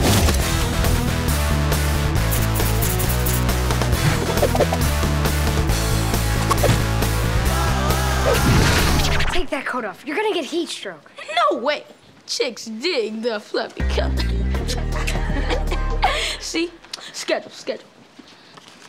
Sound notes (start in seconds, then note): 14.6 giggling